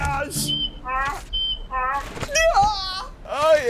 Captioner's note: donkey braying